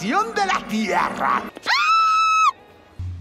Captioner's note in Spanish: screams in Candace